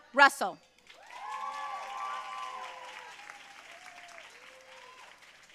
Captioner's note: audience cheering and applauding